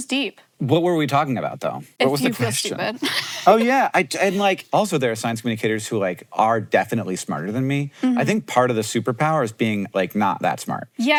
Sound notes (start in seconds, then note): 2.1 Maya laughs